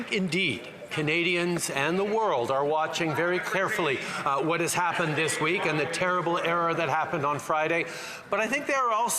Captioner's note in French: voix de l'interprète